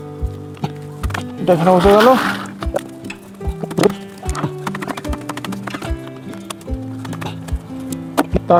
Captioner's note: sound of legs being fitted